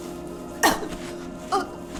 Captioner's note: coughs